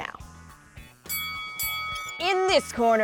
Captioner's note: bell dings